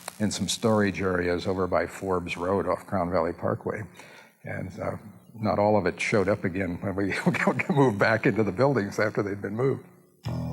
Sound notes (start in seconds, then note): 7.1 chuckles